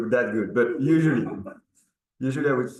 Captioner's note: participant laughing